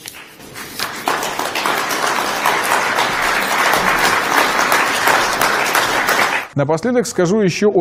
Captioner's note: loud applause